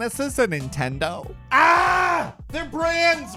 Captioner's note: screaming